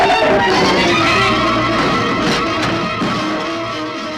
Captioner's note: shrew roars; boxes crash